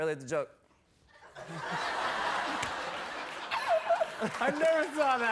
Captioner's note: laughter